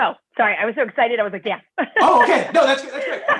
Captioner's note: laughter